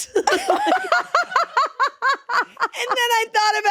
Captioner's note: laughing